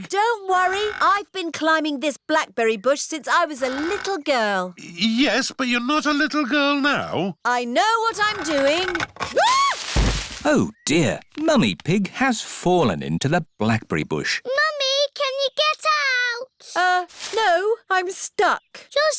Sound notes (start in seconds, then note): 8.2 thuds; 9.3 screams